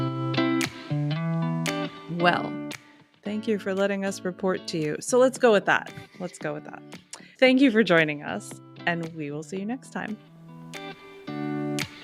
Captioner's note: lip smack